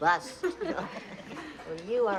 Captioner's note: laughing